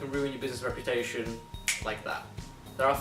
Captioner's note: snap fingers